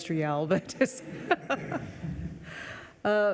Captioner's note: laughing